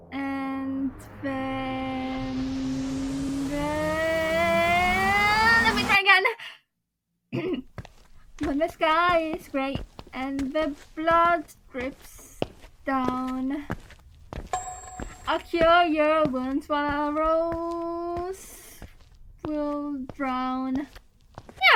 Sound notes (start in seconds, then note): 7.3 clears throat